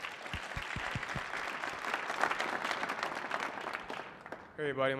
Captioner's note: audience applauding